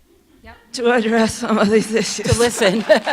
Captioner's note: laughs